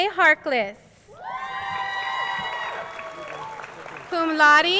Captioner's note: crowd cheering